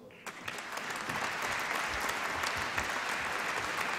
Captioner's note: applause